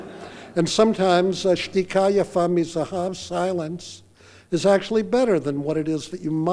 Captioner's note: speaking foreign language